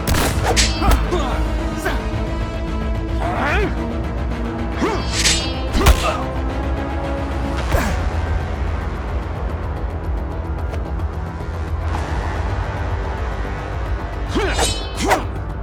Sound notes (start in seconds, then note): 0.0 gun firing; 4.8 sword clanking; 6.2 dramatic music; 14.3 both moaning